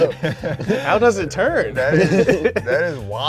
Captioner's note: all laughing